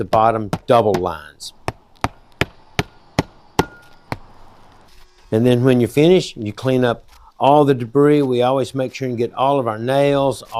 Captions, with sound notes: bottom double lines. (hammering) And then when you finish, you clean up all the debris. We always make sure you get all of our nails,